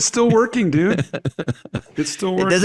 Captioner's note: chuckling